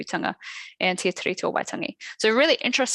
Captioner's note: non-english speech